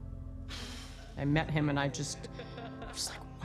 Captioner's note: blowing